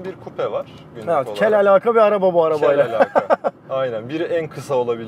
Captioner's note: laughings